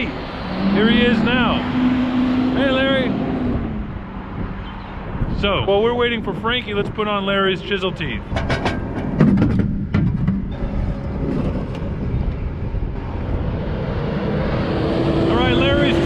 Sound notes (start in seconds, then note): 8.0 tractor sound